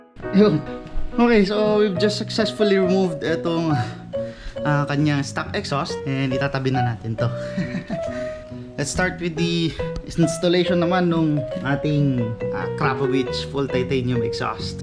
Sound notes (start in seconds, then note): 7.4 awkward laugh